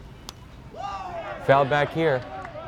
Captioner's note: bat cracks; player cheers